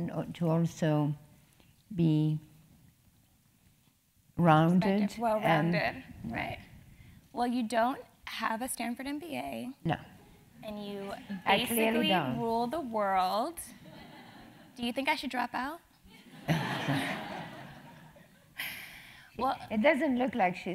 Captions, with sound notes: very important to also be rounded? >> Well rounded, right. Well, you don't have a Stanford MBA. >> No. >> And you basically rule the world. >> [LAUGH] >> Do you think I should drop out? >> [LAUGH] >> Well- >> It doesn't look like she's